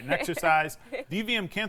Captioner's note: laughs